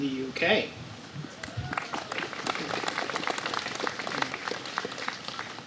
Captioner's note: applause